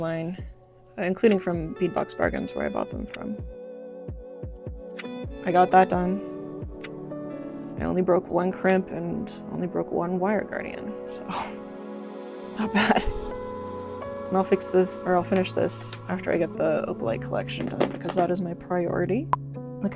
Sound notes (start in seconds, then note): 11.8 laughs